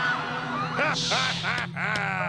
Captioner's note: laughing